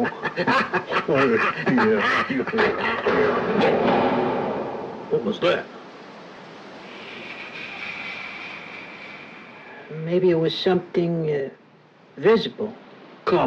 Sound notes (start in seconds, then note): 3.3 gun shots fired; 8.0 eerie wind blows